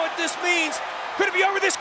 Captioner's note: crowd cheering